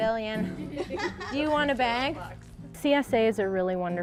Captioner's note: girl laughs